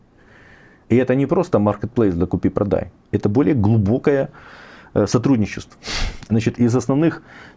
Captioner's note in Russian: фыркает